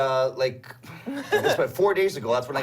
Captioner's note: gags